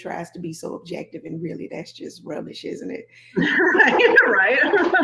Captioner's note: laughing; laughs